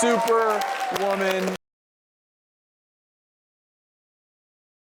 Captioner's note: crowd cheering